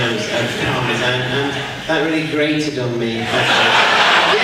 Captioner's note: audience laughs